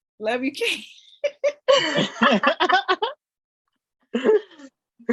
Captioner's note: laughter